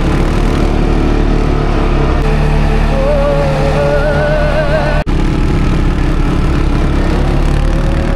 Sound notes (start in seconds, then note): 2.9 scream